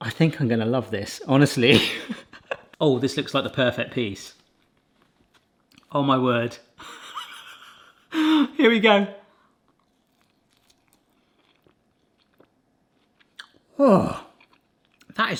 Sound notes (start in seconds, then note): 1.7 laughing; 6.8 laughing; 10.5 munching